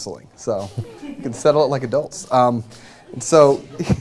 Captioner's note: laughter